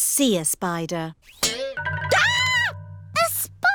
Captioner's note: screams